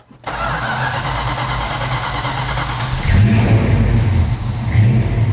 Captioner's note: engine cranking and revving